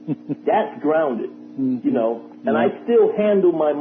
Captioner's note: laughter